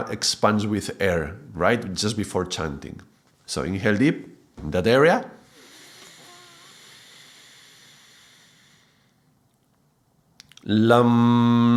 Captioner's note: tapping